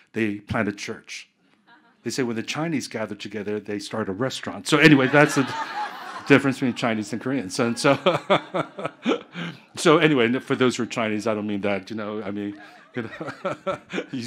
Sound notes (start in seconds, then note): 4.8 audience laughing; 8.4 chuckling; 12.4 chuckling